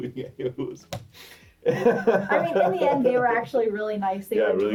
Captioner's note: laughs